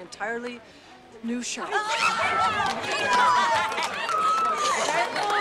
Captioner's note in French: acclamations